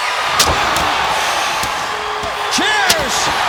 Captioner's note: crowd cheering